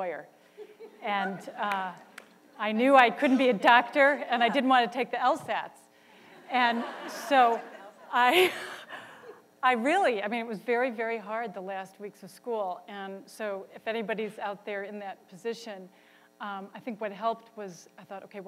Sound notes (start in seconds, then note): 0.6 laughter; 6.3 laughter